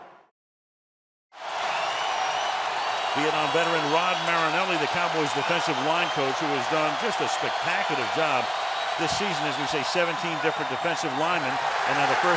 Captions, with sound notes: [cheering] Vietnam veteran Rod Marinelli, the Cowboys' defensive line coach, who he's done just a spectacular job this season, as we say, 17 different defensive linemen.